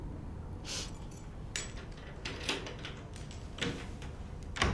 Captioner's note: keys jangle, turn in lock; door opens